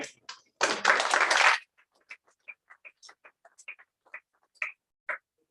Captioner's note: applause